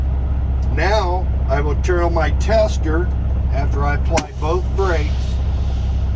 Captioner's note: air releases